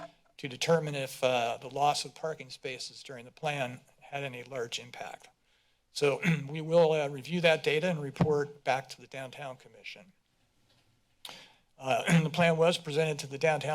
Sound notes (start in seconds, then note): 6.2 clears throat; 12.0 clears throat